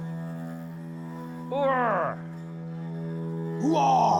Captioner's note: questioning